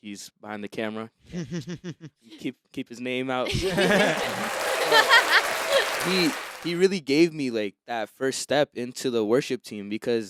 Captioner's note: applause